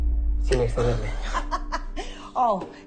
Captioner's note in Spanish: Risas